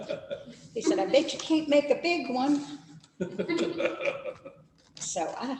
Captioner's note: laughs